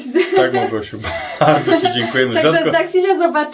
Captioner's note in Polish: śmiech